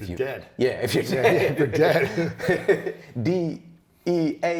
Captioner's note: laughs